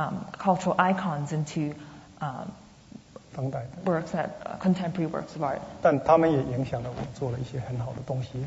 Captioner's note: speaking Mandarin